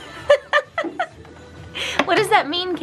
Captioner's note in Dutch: Moeder lacht